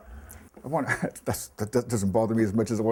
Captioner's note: chuckles